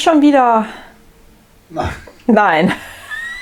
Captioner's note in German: Aus dem Off